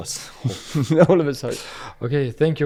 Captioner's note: laughs